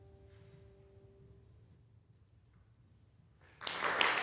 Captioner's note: silence; applause breaks out